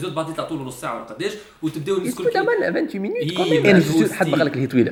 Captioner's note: people complaining voices